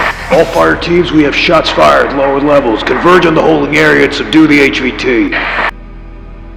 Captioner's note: voice on walkie